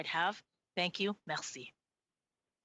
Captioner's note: speaking French